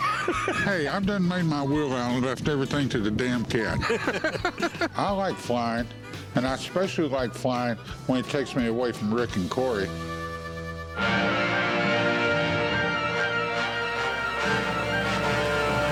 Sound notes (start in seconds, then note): 3.6 laughter